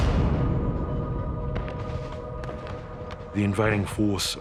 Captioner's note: gun firing